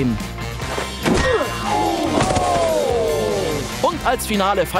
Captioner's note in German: Kampfgeräusche